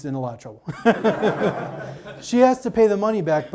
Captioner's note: audience laughs